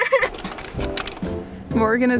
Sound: laughing; camera rattling; upbeat jazzy music

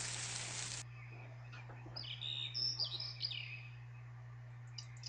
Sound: bird tweeting; bird tweeting

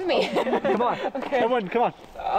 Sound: laughs

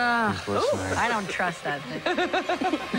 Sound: laughs

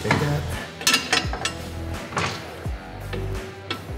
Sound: metal clattering on metal

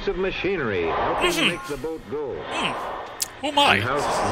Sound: tsk

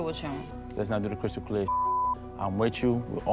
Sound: beep

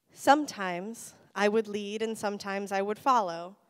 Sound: none

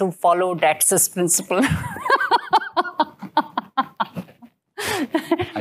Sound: laughter

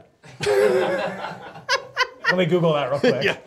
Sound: laughing

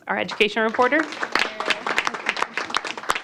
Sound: applause

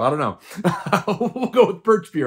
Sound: laughs

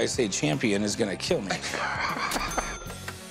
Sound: laughter

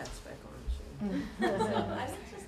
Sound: chuckling

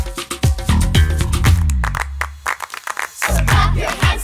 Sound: clapping

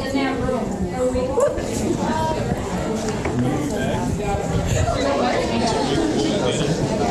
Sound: crowd conversing among each other

